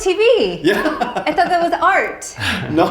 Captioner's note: laughs